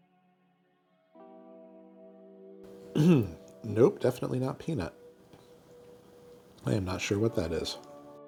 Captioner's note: grunting